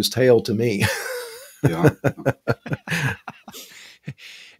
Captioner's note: laughs